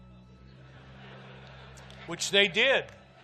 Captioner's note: audience laughs